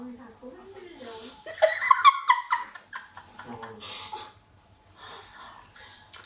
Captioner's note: feat. my silly laughter